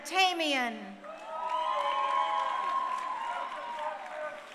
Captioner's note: crowd cheering